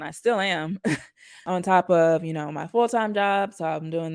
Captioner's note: chuckles